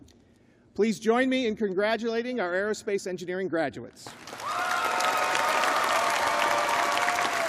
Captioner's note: applause